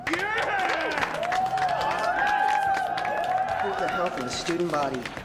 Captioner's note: crowd cheers and applauds